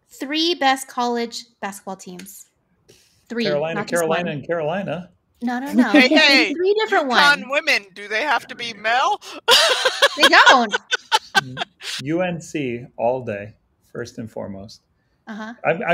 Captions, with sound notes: Three best college basketball teams, three, not just one. - Carolina, Carolina and Carolina. - No, no, no, you gotta do three different ones. - Eucon Women, do they have to be male? (laughs) - They don't. - UNC all day, first and foremost.